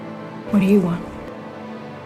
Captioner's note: voiceover